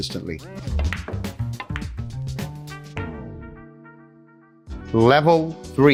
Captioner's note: pool table balls clacking